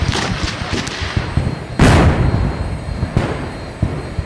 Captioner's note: cannons fire